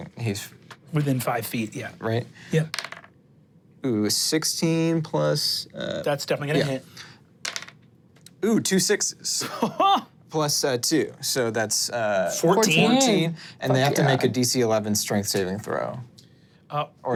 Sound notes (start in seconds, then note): 2.7 dice rolling; 7.4 dice rolling; 9.7 guffaws